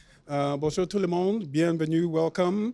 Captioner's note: speaks in foreign language